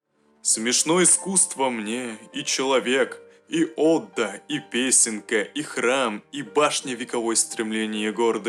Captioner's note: A poem by Paul Verlaine is read in Russian